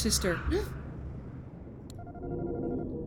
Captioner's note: gasps